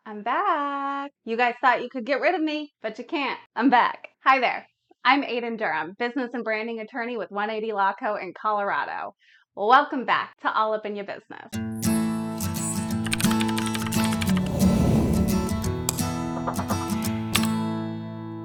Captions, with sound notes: - I'm back. You guys thought you could get rid of me, but you can't. I'm back. Hi, there. I'm Aiden Durham, business and branding attorney with 180 Law Co in Colorado. Welcome back to All Up in Yo' Business. (guitar music) (graphics whirring) (keyboard typing) (logo whooshing)